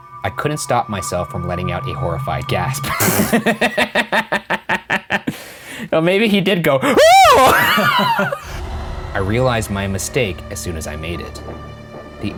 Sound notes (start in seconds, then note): 2.9 laughing; 7.2 laughing